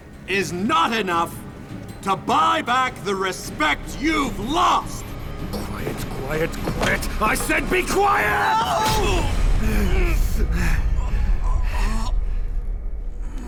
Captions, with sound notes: is not enough to buy back the respect you've lost. Quiet! I said, be quiet! No! [both grumbling and gasping]